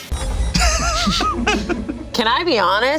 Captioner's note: laughs